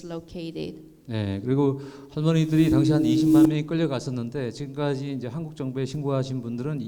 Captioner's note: speaking in foreign language